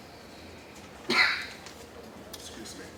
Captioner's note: cough